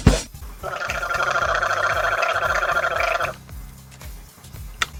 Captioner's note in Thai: เสียงกลั้วคอ